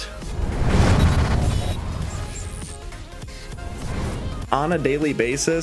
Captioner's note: air whooshes; electricity buzzing